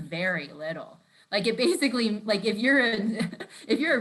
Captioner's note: laughs